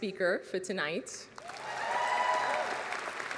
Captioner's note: applause